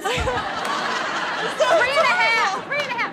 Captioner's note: audience laughs